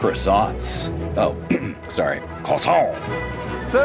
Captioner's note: clears throat